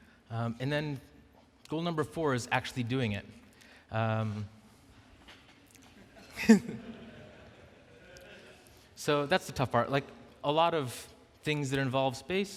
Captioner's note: laughing